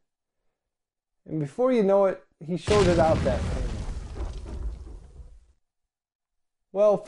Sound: explosion

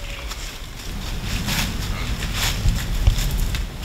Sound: buck grunts

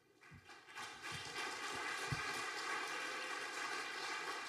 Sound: audience applauding

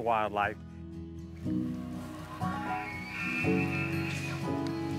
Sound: elk shrieking

